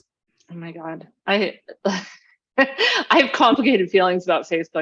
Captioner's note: laughs